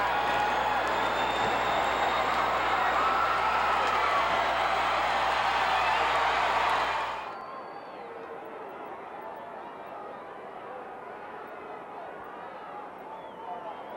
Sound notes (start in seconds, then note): 4.4 audience cheering continues